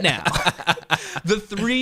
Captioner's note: laughs